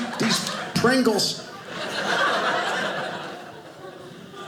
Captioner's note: audience laughing